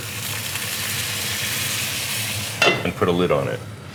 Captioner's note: sizzling